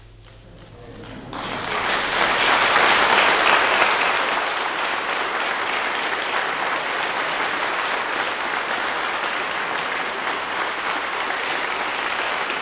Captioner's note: clapping